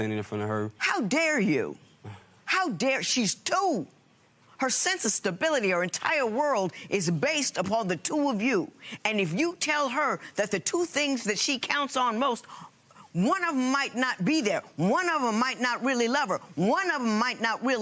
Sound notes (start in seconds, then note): none